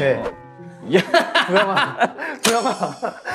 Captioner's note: laughs